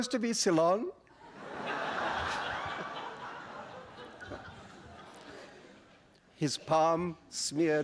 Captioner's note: laughter